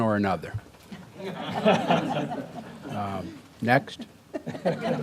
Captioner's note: audience laughing; audience laughing